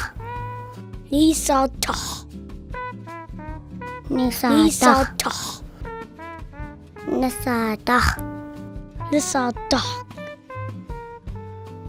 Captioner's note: children speaking Arapaho numbers